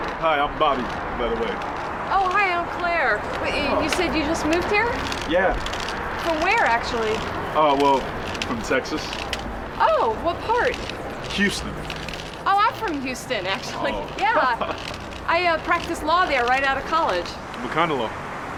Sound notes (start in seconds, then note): 13.8 laughing